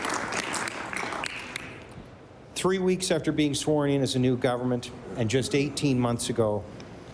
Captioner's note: applause